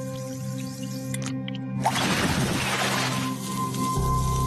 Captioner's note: clicks; bubbling liquids